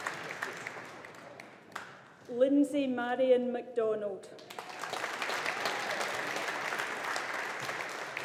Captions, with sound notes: Linsey Marion MacDonald. (AUDIENCE APPLAUDING)